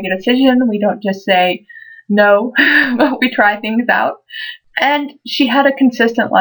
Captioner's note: laugh